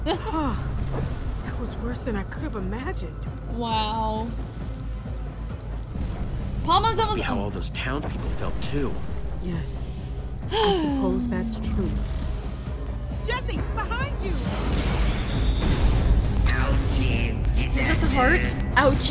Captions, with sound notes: (laughs) - Wow. - PAMA's almost-- (sighs) (crash) - Is that the heart?